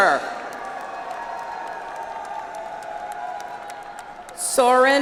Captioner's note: audience applauds